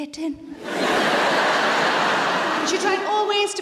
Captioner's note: audience laughs